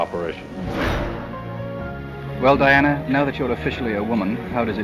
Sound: whoosh

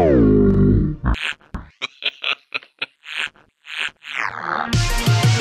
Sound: manic laughter

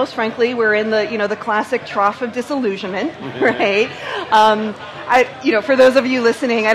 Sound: laughs

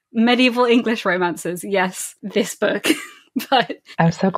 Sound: laughing

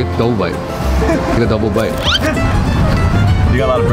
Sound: laughing

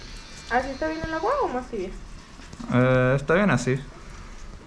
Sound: speaking in Spanish

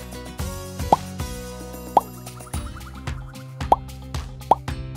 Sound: upbeat music; items make popping sound

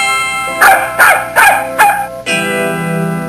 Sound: barking

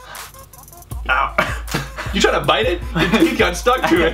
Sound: laughter

